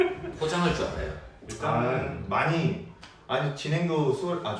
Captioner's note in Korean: 깊은 감탄